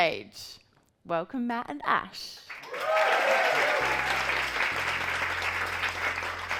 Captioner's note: audience cheering